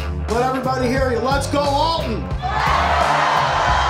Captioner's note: crowd